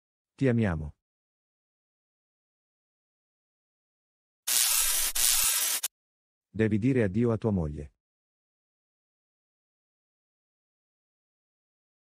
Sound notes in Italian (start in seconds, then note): 4.5 FX - Electricity